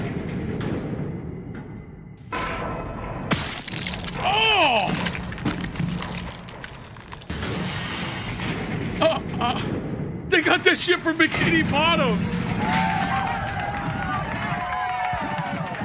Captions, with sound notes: (blood splatters) (groans) They got that shit from Bikini Bottom! (crowd cheers)